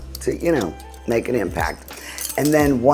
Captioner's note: utensils clinking